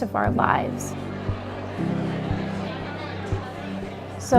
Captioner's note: crowd talking